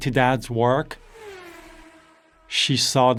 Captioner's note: engine revving